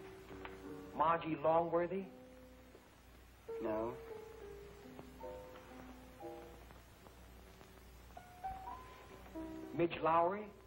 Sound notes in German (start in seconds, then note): none